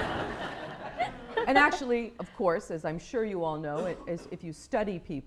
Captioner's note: laughter